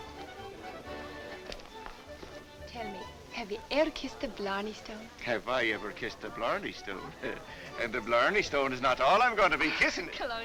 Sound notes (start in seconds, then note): none